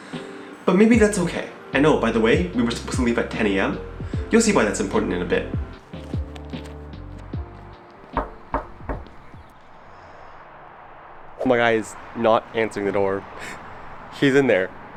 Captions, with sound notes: But maybe that's okay. And oh, by the way, we were supposed to leave at 10am. You'll see why that's important in a bit. [Knocking] My guy is not answering the door. He's in there.